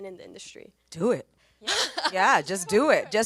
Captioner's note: audience member laughs